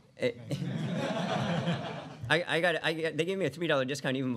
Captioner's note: laughter